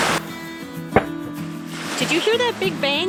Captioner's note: bang